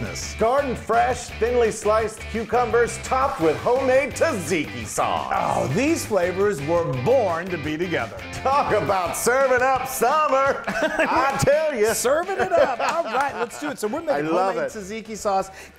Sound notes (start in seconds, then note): 10.4 laugh; 13.0 applause